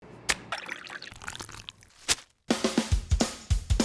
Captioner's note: foods squish and plop